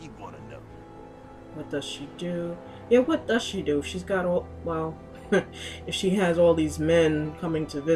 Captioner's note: laughs